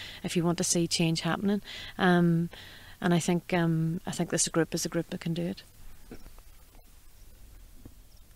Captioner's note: birds chirping in background